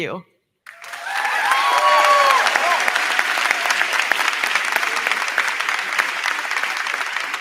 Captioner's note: crowd cheering; crowd clapping